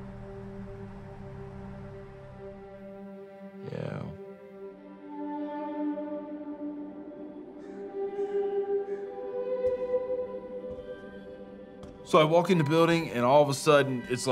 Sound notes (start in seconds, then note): 5.8 birds squawking; 5.8 gentle somber music